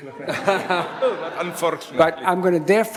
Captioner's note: audience laughs